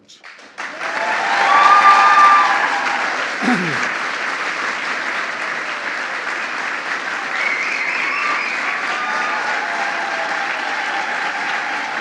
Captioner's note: applause